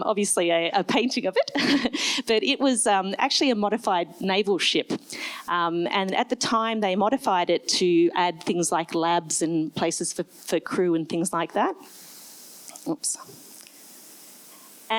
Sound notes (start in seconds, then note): 1.8 laughs